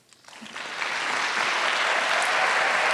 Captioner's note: applause